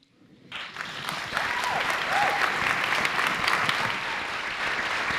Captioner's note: applause